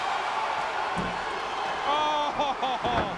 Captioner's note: crowd cheering